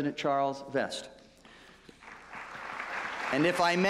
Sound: applause

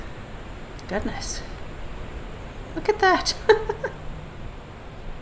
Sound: laughs

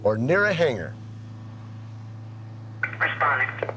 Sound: truck engine roaring

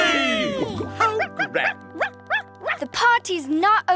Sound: Sparky barking

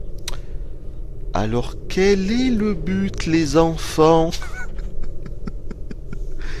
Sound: laughter

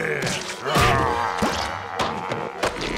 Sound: groaning

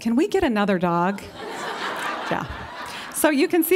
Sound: laughter

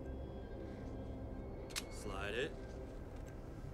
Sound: gun clicks

